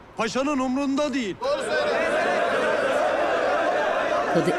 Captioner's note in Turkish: Hep bir ağızdan